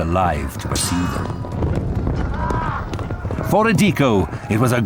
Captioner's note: grunting